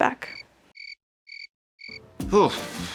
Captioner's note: crickets chirping